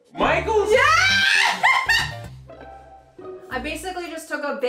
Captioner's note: laughing